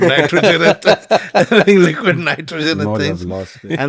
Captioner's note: laughs